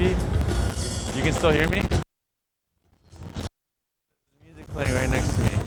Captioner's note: crackles